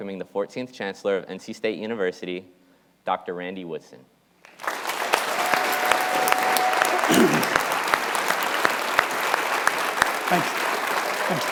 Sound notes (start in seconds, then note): 4.4 audience applauding